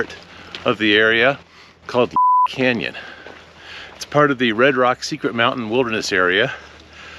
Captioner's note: beep